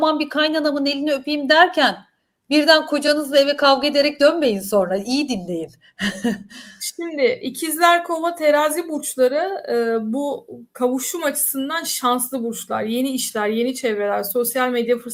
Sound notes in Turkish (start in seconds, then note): 6.0 kahkaha